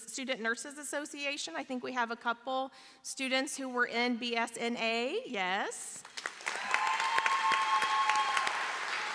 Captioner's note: applause